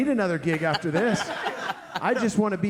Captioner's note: all laughing